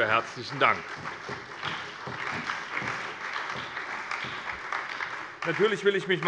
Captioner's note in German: Beifall bei der SPD und bei Abgeordneten der CDU